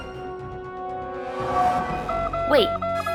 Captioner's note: alert siren